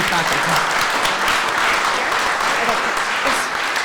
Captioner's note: applause